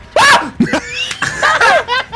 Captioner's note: laughter